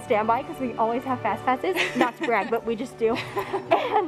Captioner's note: laughs